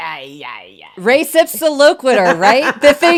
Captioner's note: laughs